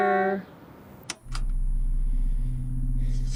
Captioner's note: button clicks; sinister music